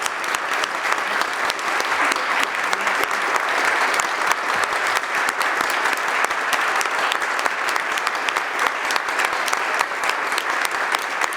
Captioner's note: applause